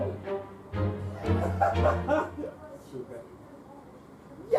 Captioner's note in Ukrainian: сміх